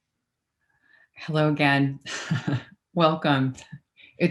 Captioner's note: laughs